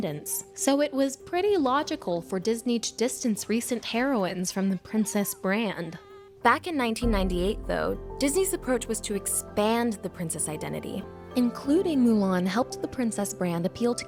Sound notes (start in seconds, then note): none